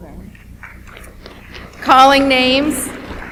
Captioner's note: audience applauds